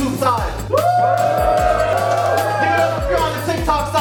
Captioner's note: audience cheering